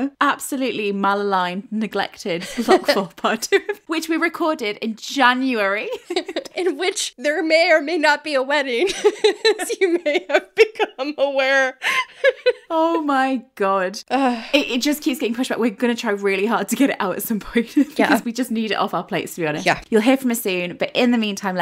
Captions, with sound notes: absolutely maligned neglected Block 4 Part 2, which we recorded in January (laughing) - In which there may or may not be a wedding. (laughs) As you may have become aware. (laughing) - Oh my God. It just keeps getting pushed back. We're gonna try really hard to get it out at some point because we just need it off our plates to be honest. You'll hear from us soon, but in the meantime,